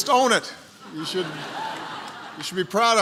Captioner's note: laughter